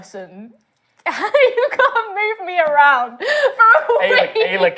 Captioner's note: laughing